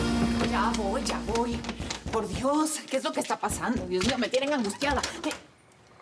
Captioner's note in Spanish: Golpean duro la puerta